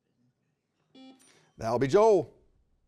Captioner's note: buzzer beeping